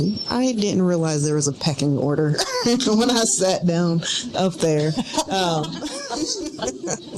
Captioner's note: laughing